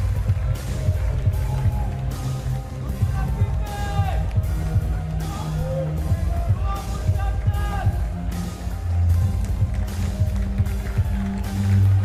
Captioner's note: applause